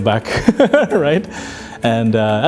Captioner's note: laughs